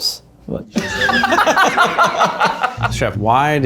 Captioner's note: all laughing